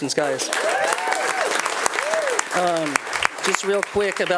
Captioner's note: attendees applauding